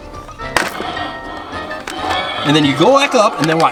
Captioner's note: dinosaur growls